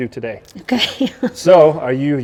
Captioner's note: chuckling